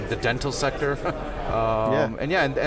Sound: laughs

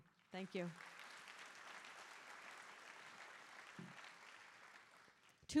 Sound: audience applauding

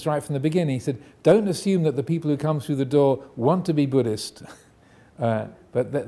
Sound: none

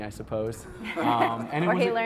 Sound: laughter

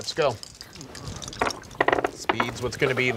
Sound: dice rolling

